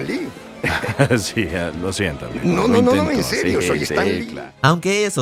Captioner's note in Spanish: Se ríe